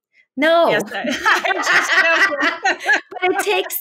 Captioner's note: laughs